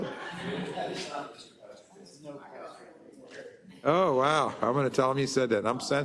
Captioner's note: laugh